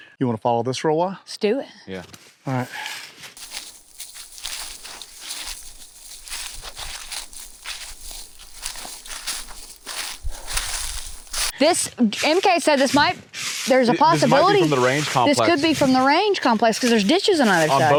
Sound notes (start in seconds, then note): 4.2 leaves crunching